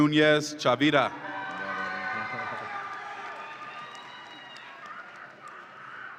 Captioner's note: audience applauds and cheers